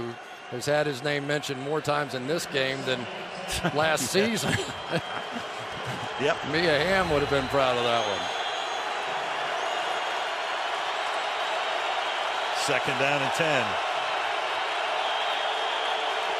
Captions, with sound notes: that time, who has had his name mentioned more times in this game than last season. [laughter] Yep. Mia Hamm would have been proud of that one. [cheering] Second down and 10.